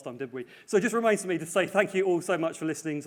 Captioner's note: voice muffled